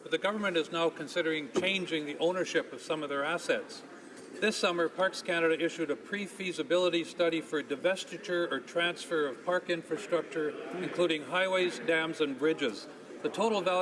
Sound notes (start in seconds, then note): none